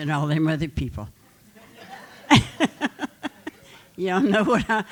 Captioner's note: laughter